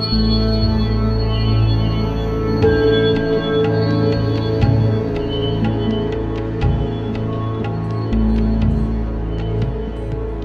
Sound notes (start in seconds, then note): none